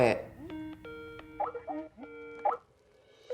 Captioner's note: computer beeping